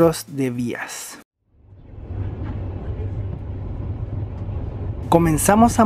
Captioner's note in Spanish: sonido del tren